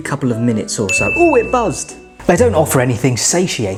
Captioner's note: phone ringing